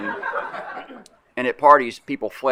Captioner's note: laughter